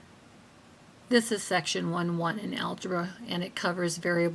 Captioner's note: voiceover